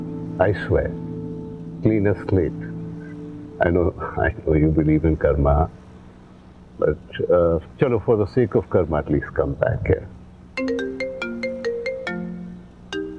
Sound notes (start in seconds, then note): 10.6 phone ringing